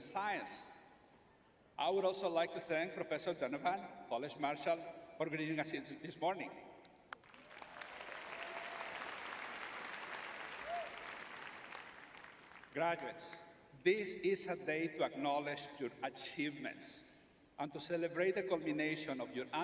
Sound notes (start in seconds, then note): 10.5 audience applauding